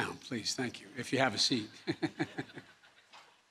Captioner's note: laughter